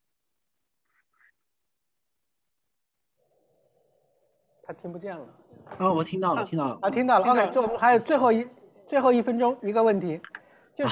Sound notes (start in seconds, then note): 4.8 Mandarin